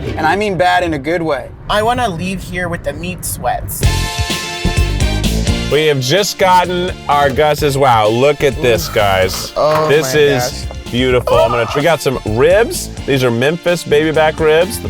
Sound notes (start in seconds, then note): 4.0 upbeat music; 11.2 gasps